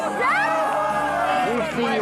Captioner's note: shouting